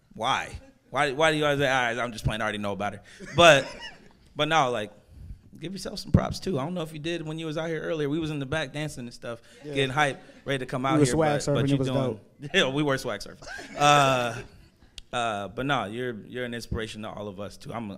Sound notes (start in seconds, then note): 3.2 laughing; 13.5 audience laughing